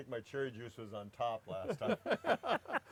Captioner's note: laughing